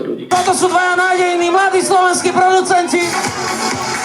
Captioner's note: voice over mic